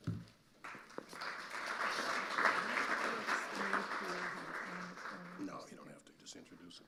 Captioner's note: audience applauding; speaking quietly